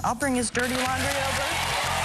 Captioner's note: cheering